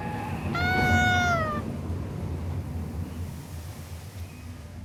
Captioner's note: yelps